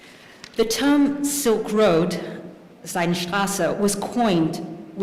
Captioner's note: speaking german